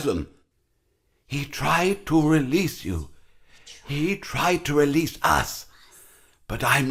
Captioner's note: child's voice in the background repeating